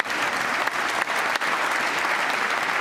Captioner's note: applause